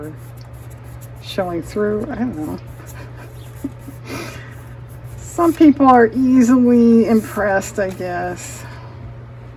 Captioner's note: laughs